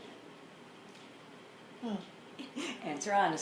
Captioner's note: laughs